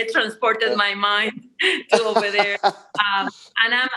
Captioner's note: laughs